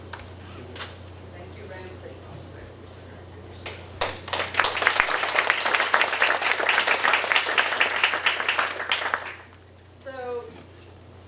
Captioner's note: applause